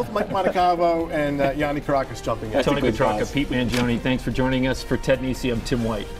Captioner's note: laughter